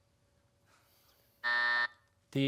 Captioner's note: buzzer